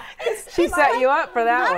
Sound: laughing

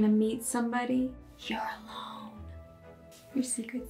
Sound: loud whisper

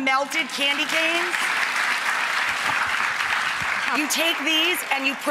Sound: audience applauds

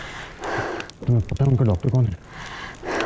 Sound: Sakshi exhales

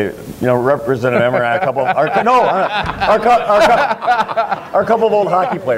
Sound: Emmer laughs

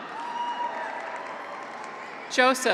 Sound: audience applauds; graduates cheer

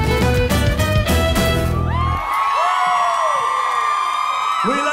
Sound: applause

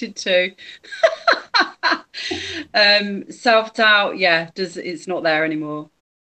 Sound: laughs

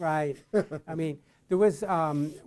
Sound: chuckles

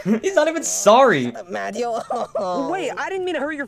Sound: Luigi cries

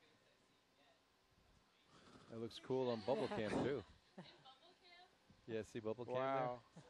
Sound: laughter

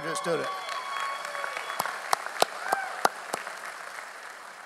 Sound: audience applauds

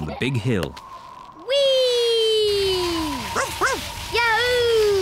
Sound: wind whistling; barks

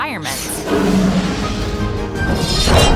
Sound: fire breath blasting; exciting music

